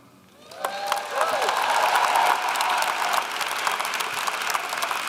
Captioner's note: audience clapping and cheering